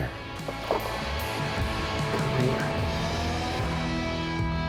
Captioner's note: water splashing